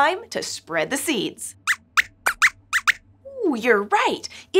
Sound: squeaks squeaks

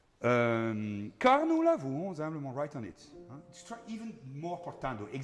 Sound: speaking in foreign language

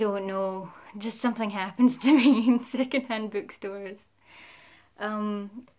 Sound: laughing

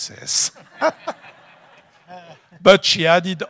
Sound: audience laughs

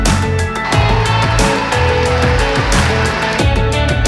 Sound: cheering and applause

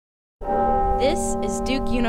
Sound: bells tolls

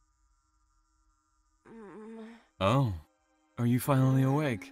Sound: groans

